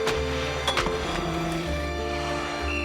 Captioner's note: whistle blowing